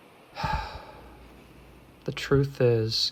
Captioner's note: Elias sighs